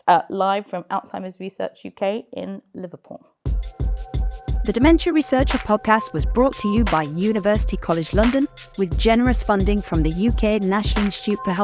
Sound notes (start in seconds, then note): 3.5 chilled music; 4.7 voiceover